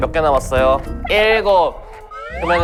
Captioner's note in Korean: 자체 목소리 변조